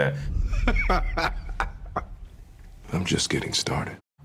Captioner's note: laughing